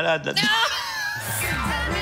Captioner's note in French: rires